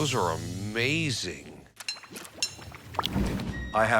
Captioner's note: spoon clinking, tea bubbling